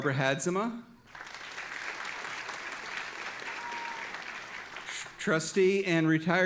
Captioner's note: audience applauding